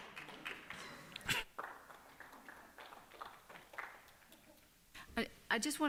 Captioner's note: applause